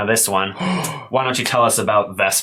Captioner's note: gasp